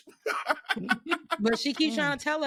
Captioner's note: laughing